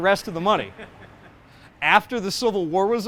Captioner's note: laughs